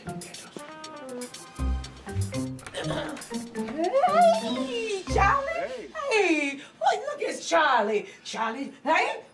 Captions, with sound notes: - (clears throat) - Heyyyy! Charlie! - Hey! Hey, look at Charlie, Charlie, hey,